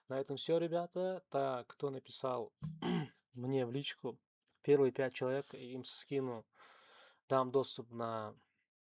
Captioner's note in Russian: откашливается